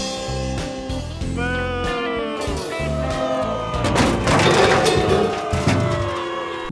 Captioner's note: audience boos